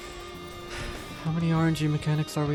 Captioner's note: sigh